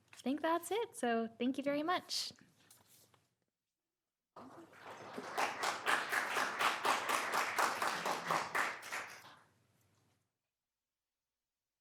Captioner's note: applause